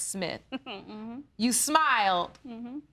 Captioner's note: chuckles